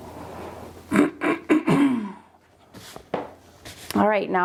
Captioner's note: coughing